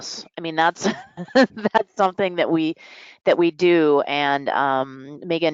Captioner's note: laughs